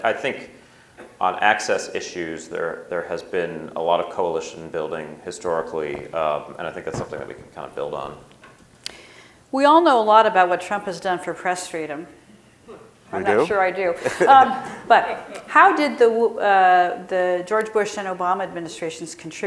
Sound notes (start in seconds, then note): 13.9 audience member laughing